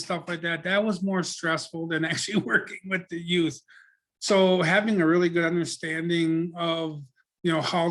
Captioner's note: laughs